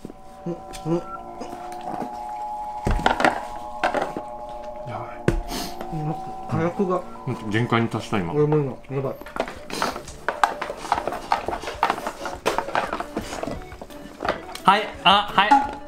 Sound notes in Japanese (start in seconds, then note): 0.1 のやばそうな声; 9.6 かきこむ音